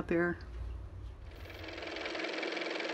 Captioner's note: car motor